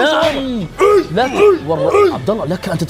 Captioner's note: war cries